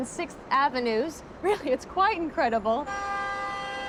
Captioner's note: horn honks